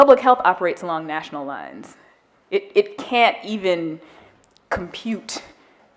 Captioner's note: none